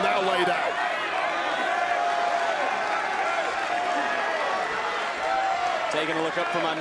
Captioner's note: crowd cheers